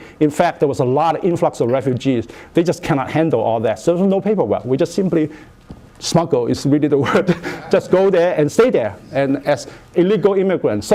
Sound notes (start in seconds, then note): 7.0 laughter